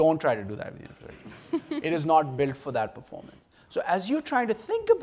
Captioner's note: laughter